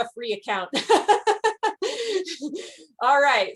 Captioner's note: laughs